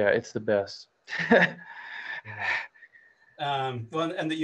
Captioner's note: laughs